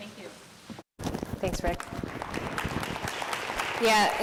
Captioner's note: audience applauds